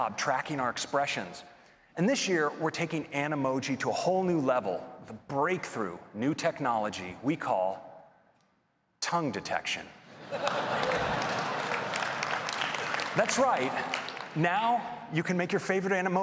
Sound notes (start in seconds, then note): 13.1 applause